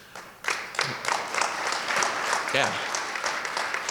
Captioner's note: audience clapping